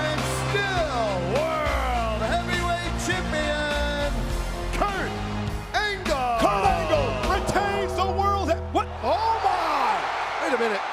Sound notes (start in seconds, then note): 5.0 audience chanting; 8.1 ominous music; 10.0 audience cheers